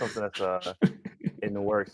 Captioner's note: chuckles